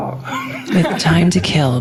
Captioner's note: laughter